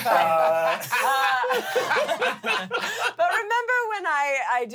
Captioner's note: everyone laughs